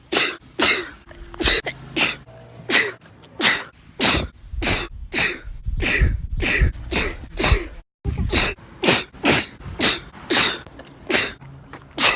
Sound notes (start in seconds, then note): 0.0 sneeze; 1.9 sneezes in a castle; 2.1 sneeze; 4.0 still sneezing in a castle; 8.8 sneeze